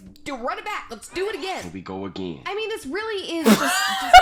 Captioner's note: girls crack up